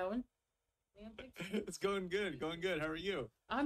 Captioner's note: chuckles